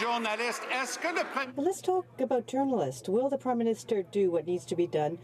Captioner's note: some Applause